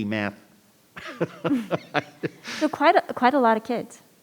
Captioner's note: laughs